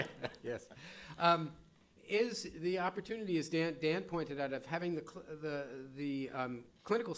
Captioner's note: chuckling